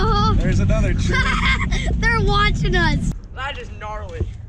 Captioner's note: laughter; giggling